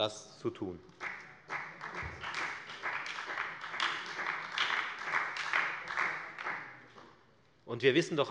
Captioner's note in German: Beifall bei der FDP und bei Abgeordneten der SPD